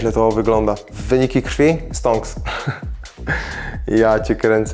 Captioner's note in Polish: śmiech